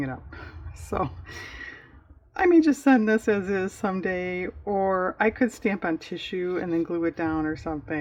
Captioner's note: laughs